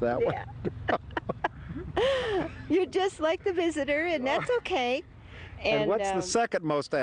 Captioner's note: laughter